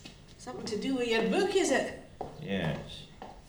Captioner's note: none